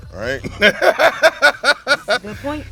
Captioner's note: laughs